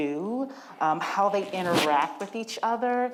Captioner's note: microphone rumbles